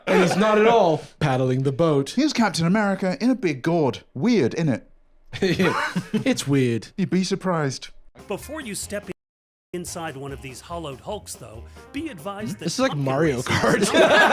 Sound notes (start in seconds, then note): 5.4 chuckles